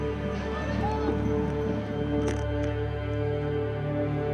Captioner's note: hollering; slow dramatic music